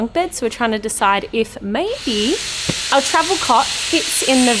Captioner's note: drilling in background